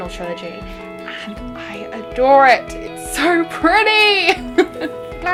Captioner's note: laughs